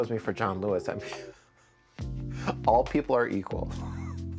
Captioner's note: laughing